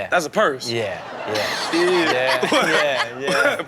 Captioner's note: audience laughs